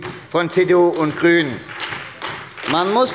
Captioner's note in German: Beifall bei der SPD